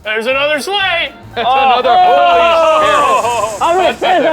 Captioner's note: group chuckling